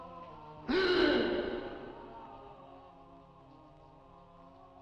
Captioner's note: Dick gasping